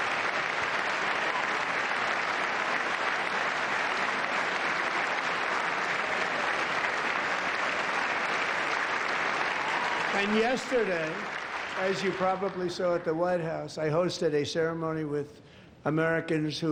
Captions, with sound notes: from granting commercial licenses to illegal aliens. [ Cheers and applause ]